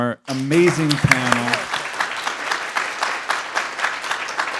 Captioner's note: applause